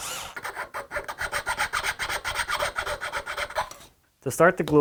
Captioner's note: metallic filing